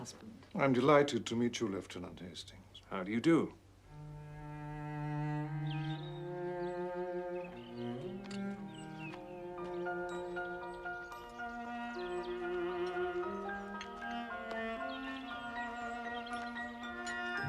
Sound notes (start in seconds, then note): 5.5 Burung berkicau